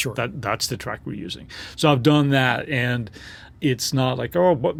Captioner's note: huffing sound